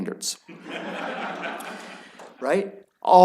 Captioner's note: laughter